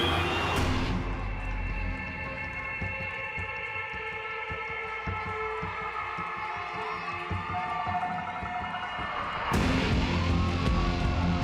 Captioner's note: crowd cheering